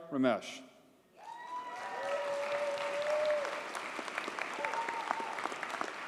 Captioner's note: audience cheers and applauds